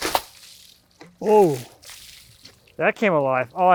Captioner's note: water splashing